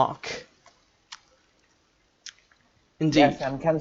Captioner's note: awkward Silence